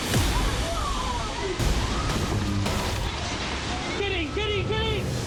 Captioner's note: people exclaiming